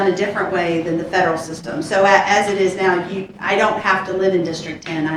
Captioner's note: audience laughs